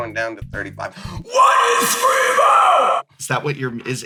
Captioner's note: metal metal voice